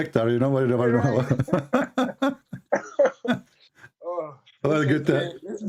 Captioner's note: Ketawa